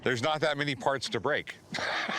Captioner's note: laughs